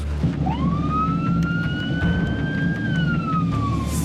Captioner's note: siren blaring